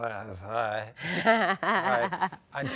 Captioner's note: laughs